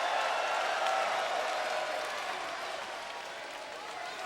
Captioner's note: audience cheering